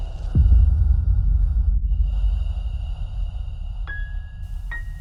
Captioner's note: machine breathing